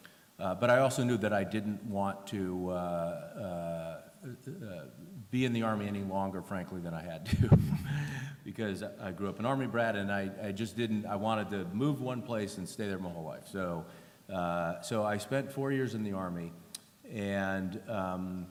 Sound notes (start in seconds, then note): 7.2 laughter